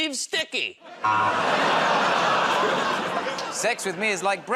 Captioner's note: buzzer